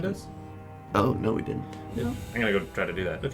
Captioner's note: quietly